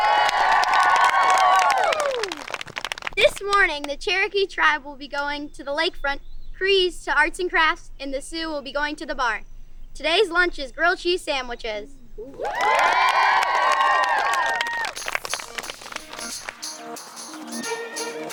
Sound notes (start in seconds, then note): 0.0 campers applauding; 12.3 campers applauding; 14.9 playful vibrant music